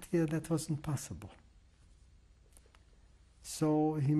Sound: pauses for 3 seconds

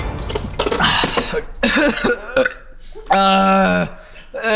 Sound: coughing

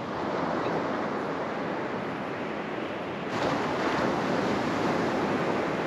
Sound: waves splashing against the shore

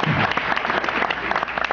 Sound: applause

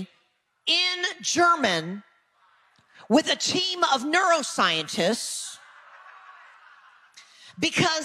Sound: audience laughing

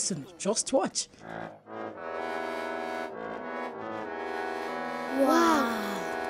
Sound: horns hooting loudly

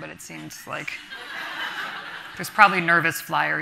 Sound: audience laughing

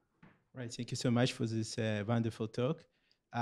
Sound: voiceover

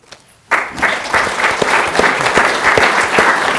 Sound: applause

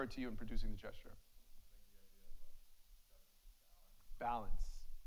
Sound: faintly speaking

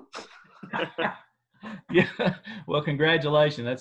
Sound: laughter

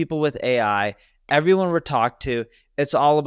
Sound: graphics ding

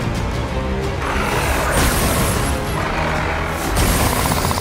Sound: growling

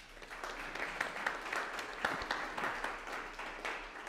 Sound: audience applauding

